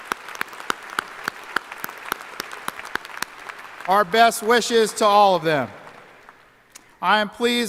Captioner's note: applause